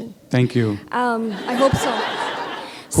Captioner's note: laughter